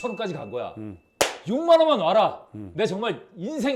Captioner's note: clap